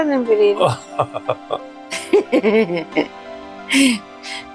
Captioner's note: laughter